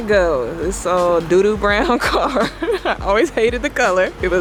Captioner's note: laughs